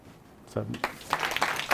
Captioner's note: applause from audience